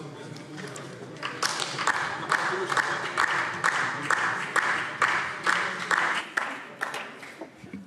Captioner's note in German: Beifall DIE LINKE